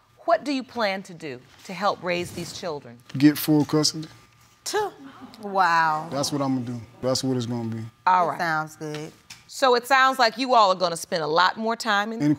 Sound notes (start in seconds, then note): 5.2 scoffs